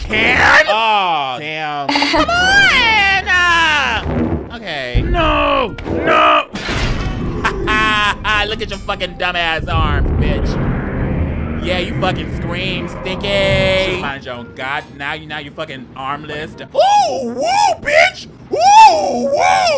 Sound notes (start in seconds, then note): 0.3 character screams; 1.9 woman laughs; 7.4 laughs